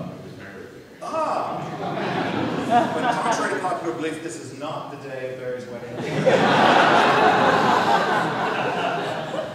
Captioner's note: audience laughter